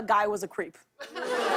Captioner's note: laughter